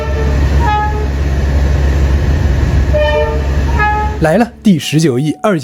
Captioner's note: friendly honking between drivers